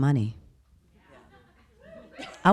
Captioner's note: people laughing